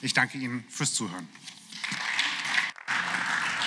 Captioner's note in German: Beifall